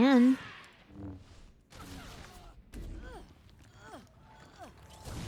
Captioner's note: grunting